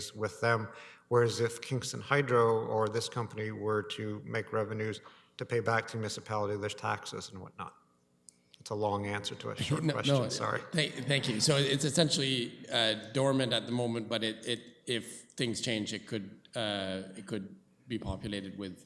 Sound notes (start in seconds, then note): 10.7 chuckling